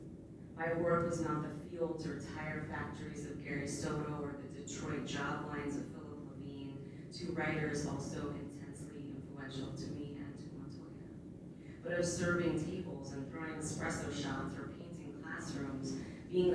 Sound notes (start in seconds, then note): none